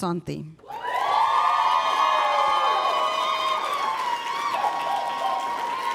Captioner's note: applause